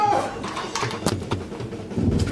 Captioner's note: thudding